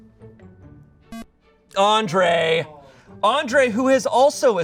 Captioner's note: electronic beep